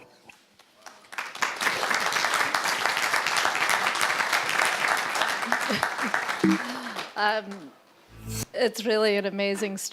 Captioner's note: applause